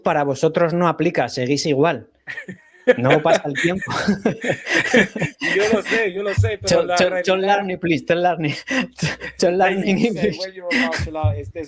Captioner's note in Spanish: risas